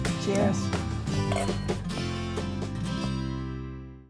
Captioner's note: gentle music; glasses clinking